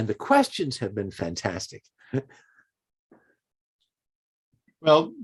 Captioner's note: chuckles